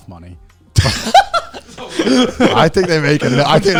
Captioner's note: everyone laughing